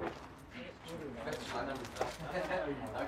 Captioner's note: quiet conversations